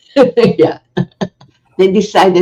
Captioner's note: laughing